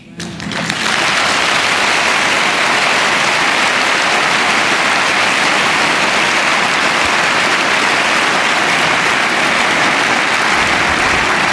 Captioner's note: applause